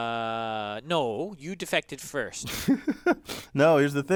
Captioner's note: laugh